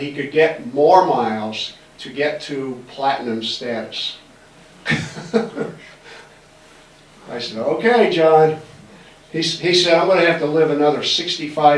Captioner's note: laughs